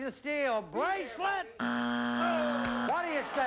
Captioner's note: buzzer